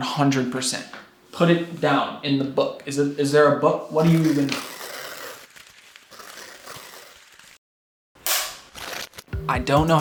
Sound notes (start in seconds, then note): 4.9 light ripping; 8.2 sharp clap; 8.6 light ripping